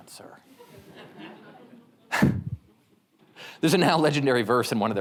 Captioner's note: audience members laugh